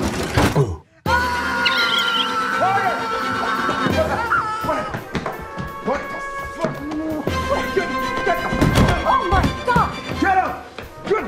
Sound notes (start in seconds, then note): 1.1 screams; 1.6 ferret whimpers